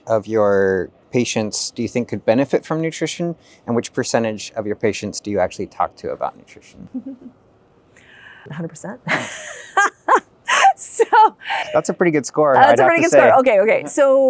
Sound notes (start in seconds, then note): 6.8 chuckles; 9.0 laughs